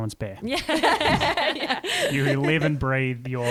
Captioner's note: laughter